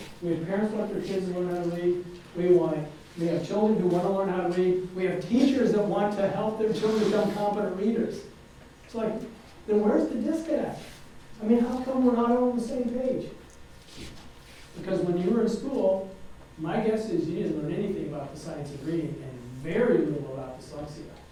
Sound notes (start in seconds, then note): none